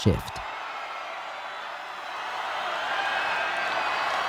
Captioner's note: audience cheering